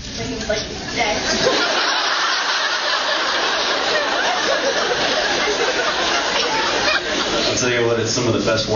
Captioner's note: laughs